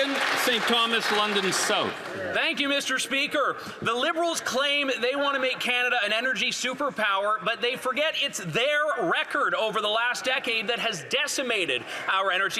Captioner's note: some Applause